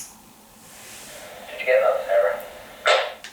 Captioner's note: walkie talkie